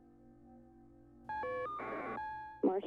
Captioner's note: beeping